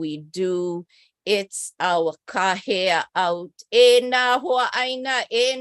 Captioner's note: non-english speech